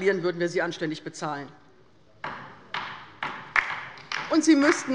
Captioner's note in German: Beifall bei der LINKEN